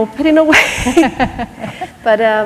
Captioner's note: laughter